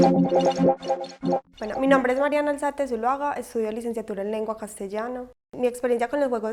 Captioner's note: Spanish